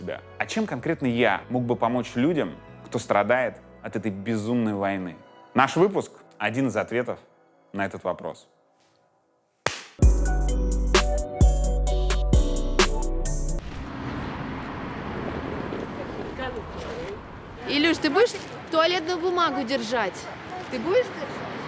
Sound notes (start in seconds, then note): 13.7 street noise